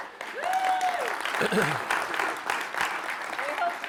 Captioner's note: applause